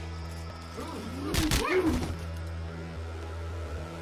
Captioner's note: body thud